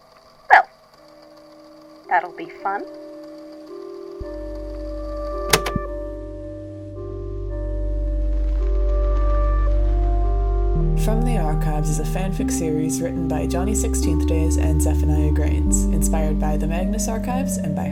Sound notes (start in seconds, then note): 5.5 click